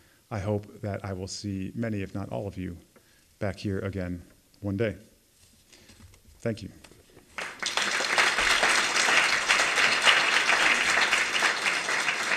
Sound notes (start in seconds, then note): 7.3 applause